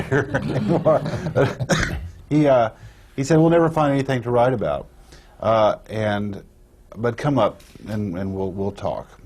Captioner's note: laughter